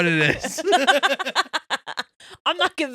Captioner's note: laughing